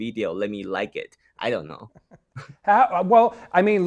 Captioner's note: both chuckling